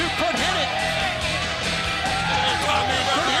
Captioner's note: crowd chatter